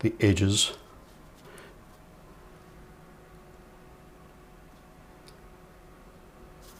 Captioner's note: silence